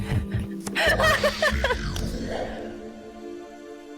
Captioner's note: deep immortal rumble